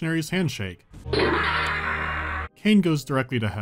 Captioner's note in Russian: крик